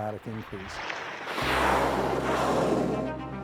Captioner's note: air hissing